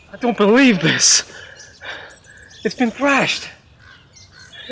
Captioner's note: birds chirping